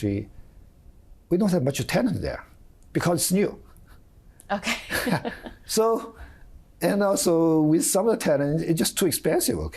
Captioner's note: laughter